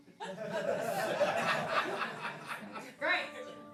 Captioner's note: laughing